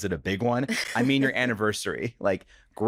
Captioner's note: laughs